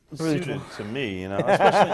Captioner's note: laughs